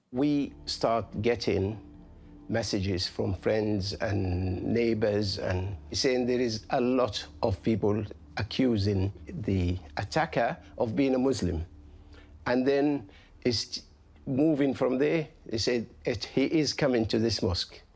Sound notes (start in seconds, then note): none